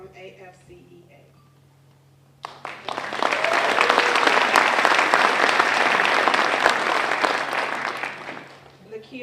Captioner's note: applause